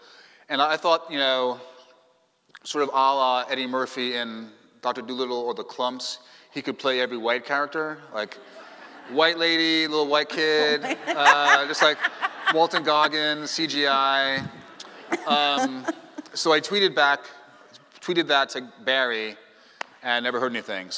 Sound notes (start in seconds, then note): 14.0 laughing